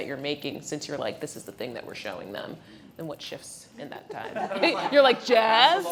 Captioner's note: laughing